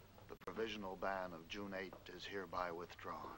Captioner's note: none